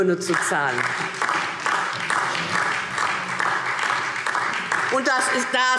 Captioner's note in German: Beifall DIE LINKE und vereinzelt SPD